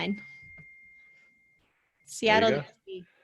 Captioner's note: bell ringing